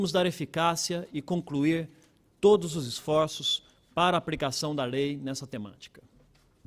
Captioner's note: speaking Portugese